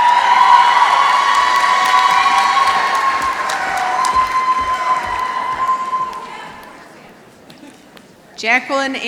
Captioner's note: applause